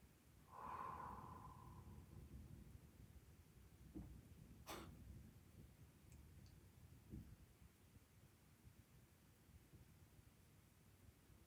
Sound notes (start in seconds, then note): 0.4 softly exhales